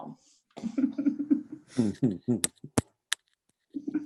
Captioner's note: laughing